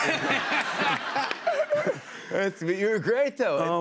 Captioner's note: laughter